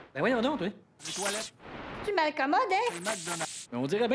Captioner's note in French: Grésillements